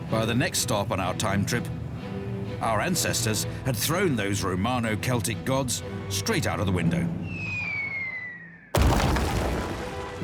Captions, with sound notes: By the next stop on our time trip, Our ancestors had thrown those romano-celtic gods Straight out of the window. [Whistling] [Crash]